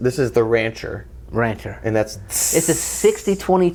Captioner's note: tss